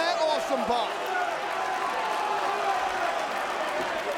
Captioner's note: crowd cheering